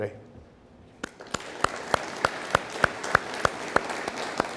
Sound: audience applauding

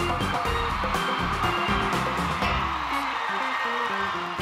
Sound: crowd cheering

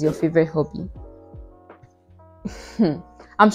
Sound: chuckles in lack of self knowledge

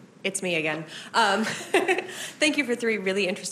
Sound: chuckles

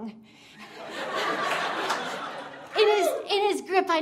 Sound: audience laughing

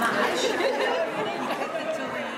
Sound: audience cheering; panellists murmuring

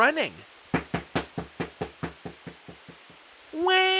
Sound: running footsteps

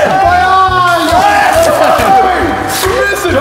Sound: screams of the innocent

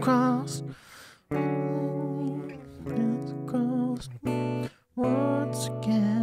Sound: humming

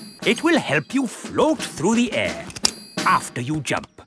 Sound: clicking

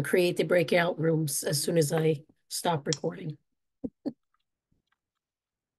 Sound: chuckles

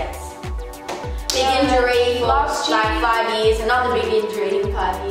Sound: claps

